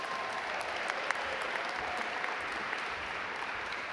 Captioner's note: audience applaud